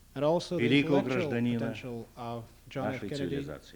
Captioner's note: non-english speech